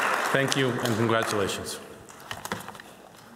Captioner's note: applause